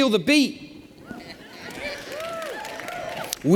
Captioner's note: cheers